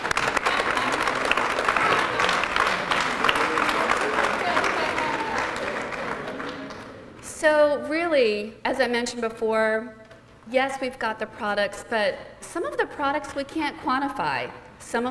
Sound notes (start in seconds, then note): 4.1 applause